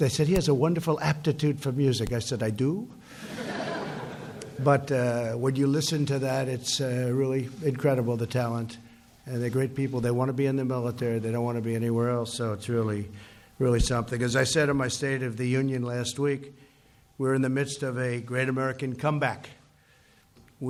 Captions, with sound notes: They said, "He has a wonderful aptitude for music." I said, "I do?" (laughter) But when you listen to that, it's really incredible, the talent. They're great people. They want to be in the military; they don't want to be anywhere else. So it's really -- really something. As I said in my State of the Union last week, we're in the midst of a great American comeback.